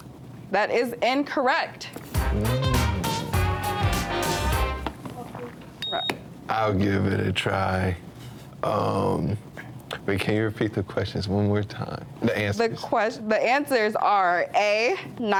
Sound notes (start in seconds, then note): 2.0 lively music; 5.8 buzzer beeps